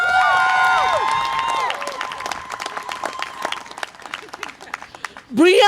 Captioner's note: audience applause and cheer